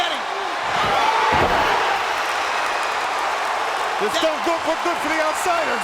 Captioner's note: crowd cheering